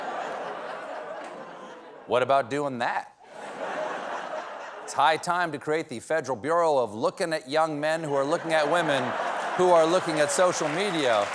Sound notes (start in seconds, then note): 3.2 laughter